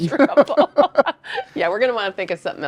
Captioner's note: both laughing